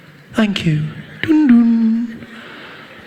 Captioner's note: PA system turns off